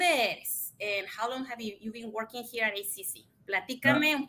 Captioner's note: speaks Spanish